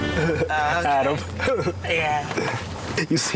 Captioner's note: laughs